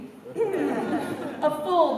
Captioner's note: laughter